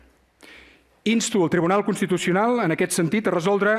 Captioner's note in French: espagnol